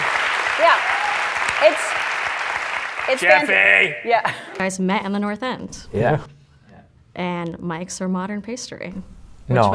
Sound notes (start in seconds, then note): 2.8 Jake, in weird voice